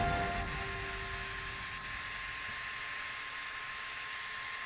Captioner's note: AC/fan buzzing